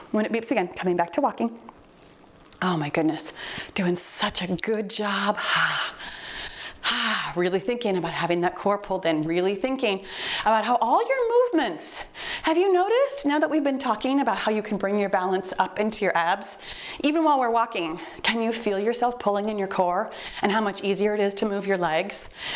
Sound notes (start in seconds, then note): 4.6 timer beeps; 5.4 breathing deeply